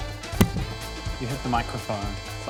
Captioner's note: clunk!